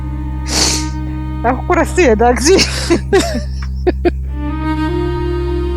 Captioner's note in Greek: χαχανίζει; γέλια